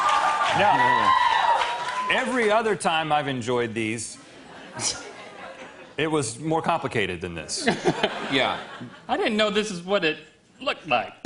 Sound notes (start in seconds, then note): 4.5 laughter